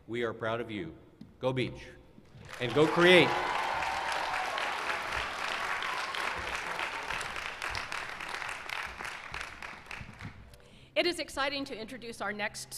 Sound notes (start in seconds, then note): 6.5 cheers and applause